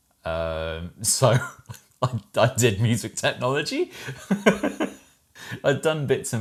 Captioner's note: laughs